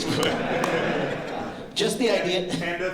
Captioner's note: laughter